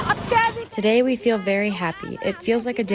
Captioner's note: through translator